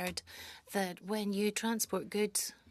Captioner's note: speaking French